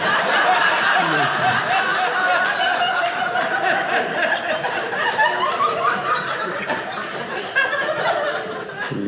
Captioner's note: audience laughing